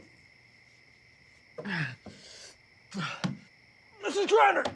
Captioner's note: grunting